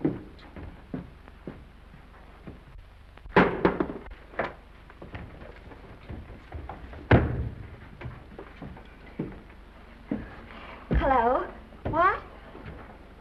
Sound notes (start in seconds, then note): 2.9 books thumps open